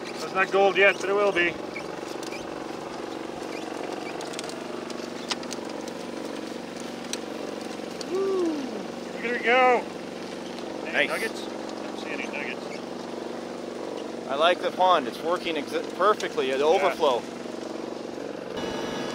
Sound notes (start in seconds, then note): 2.3 conveyor belt squeaking; 2.3 engines rumbling